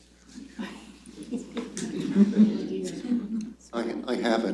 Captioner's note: laughter